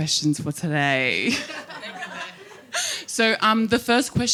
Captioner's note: audience laughing